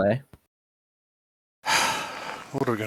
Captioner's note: sighs